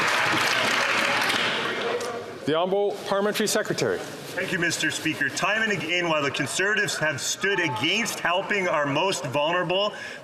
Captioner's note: some Applause